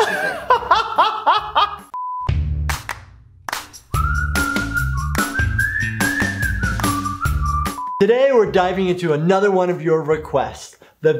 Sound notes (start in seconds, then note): 0.0 laughing; 1.9 beep; 3.4 upbeat music